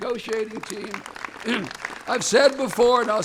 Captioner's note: applause